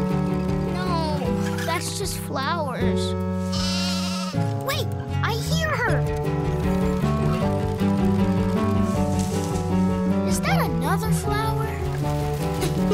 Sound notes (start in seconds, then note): 3.5 sheep baaing